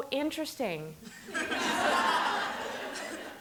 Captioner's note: laughter